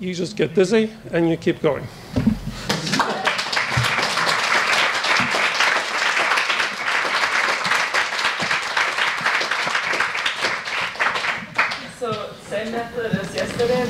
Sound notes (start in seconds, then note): 4.3 audience applauds